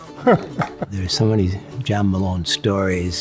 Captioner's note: chuckles